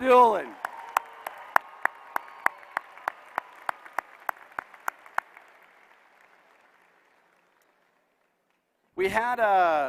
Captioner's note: applause